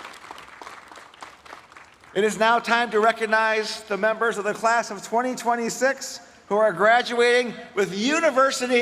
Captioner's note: applause